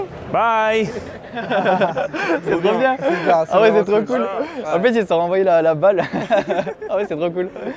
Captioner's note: group laughing and speaking in French